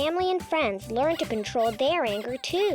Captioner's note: pig squeaking